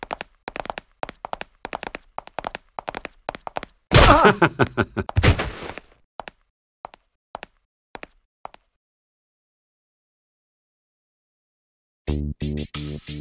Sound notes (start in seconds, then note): 3.9 Carver laughs as Bond is knocked out